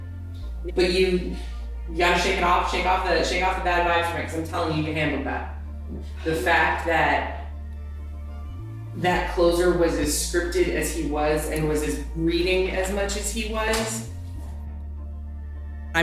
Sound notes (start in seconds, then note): none